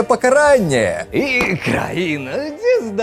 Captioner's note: bang!